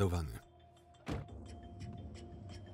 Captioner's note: tense music; door slams